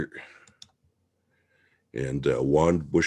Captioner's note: mouse clicking